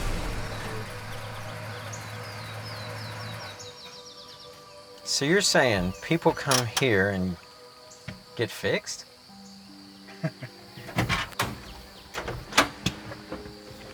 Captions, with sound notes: (birds singing) - So you're saying people come here and get fixed? (doors opening)